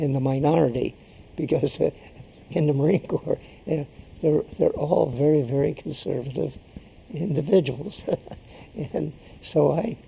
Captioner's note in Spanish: laughs